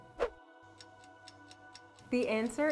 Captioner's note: clock ticking